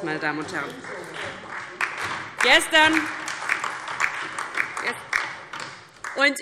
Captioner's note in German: Beifall DIE LINKE